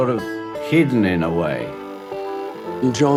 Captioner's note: tape playing